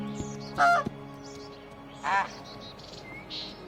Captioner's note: goose quacks